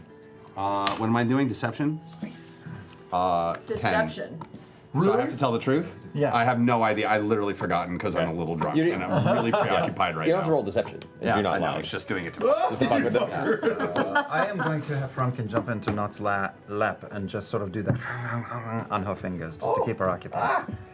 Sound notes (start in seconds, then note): 17.5 gnawing